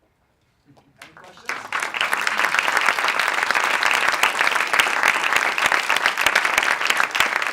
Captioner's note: applauds